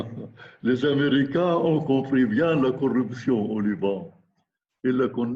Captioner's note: laughs; speaking in foreign language